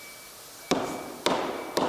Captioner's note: hamming